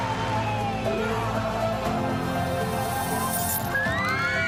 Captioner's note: cheering; shouting; cheering